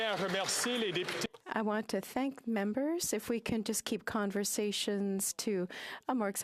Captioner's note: applause